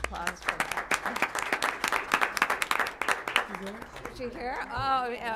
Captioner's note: applause